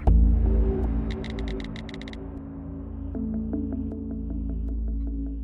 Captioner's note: keys clacking